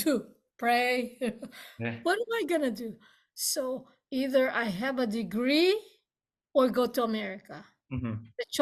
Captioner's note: laughs